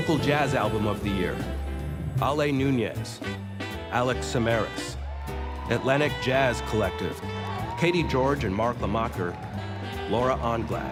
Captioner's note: cheers and applause